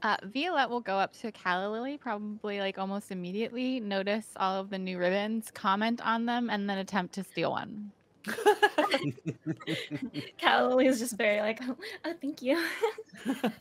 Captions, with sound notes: - Violette will go up to Calla Lilly probably, like, almost immediately, notice all of the new ribbons, comment on them and then attempt to steal one. (multiple laughing) - Calla Lilly is just very like, "Oh, thank you."